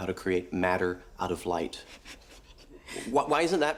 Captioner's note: laughs